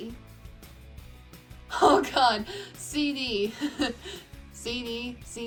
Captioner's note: laughs